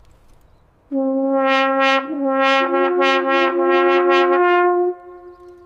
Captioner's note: deep, resonating blast of a Roman Buccina horn